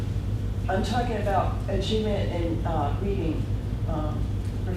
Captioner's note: voiceover